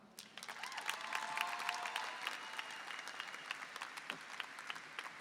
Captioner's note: applause and cheering